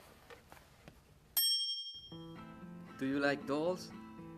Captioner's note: bell rings